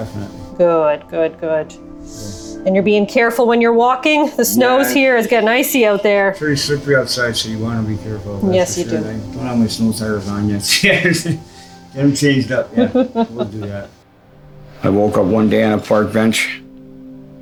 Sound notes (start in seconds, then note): 12.0 chuckling